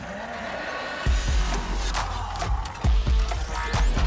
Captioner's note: growling